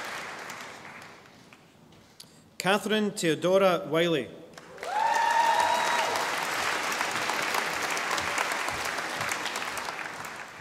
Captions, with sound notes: Kathryn Teodora Wylie. (audience applauding)